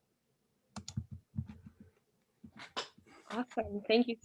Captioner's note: mouse clicking